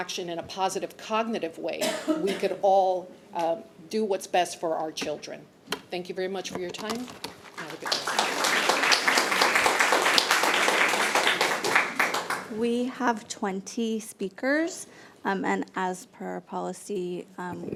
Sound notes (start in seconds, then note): 7.4 audience applauding